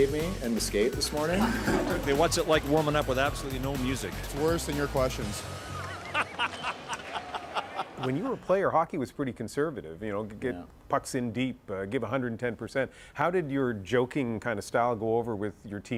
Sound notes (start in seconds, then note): 9.0 laughter